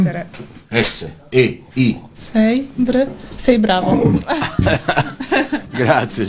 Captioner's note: laughs